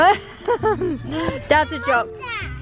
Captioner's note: laughing